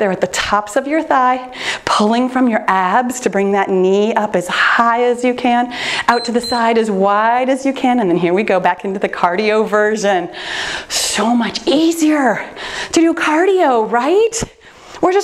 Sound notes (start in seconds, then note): 6.0 timer beeps